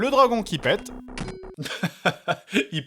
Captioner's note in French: rire